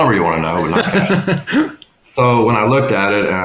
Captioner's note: laughing